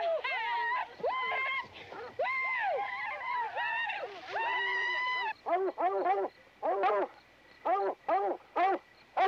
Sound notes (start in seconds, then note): 0.2 Rainie and Rubin hooting; 6.0 dog barking